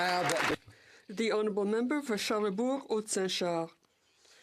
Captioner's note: some Applause